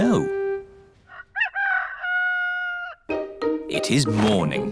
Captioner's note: rooster crowing